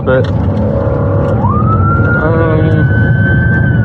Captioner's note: siren w waiailing